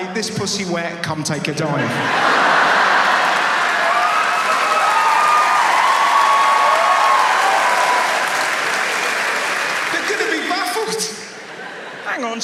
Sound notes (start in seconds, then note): 2.5 audience laughs and applauds